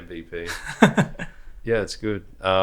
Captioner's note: laughs